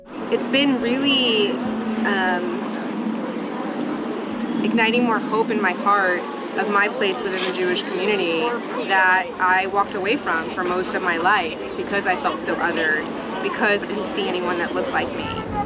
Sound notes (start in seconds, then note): none